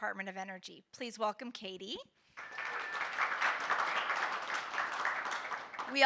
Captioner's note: audience applauding